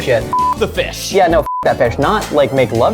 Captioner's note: beeps